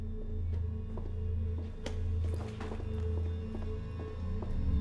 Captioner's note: shoes clacking